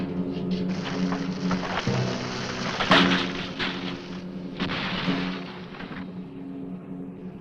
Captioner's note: ground rumbling; branches snapping